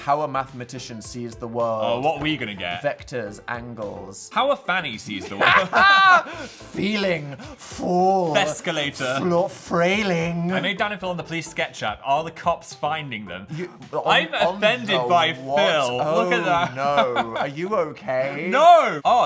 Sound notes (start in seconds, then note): 5.2 laughing